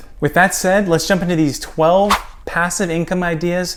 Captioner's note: air whooshing